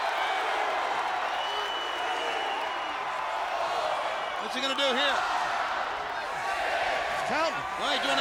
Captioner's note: applause